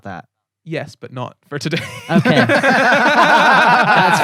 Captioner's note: laughter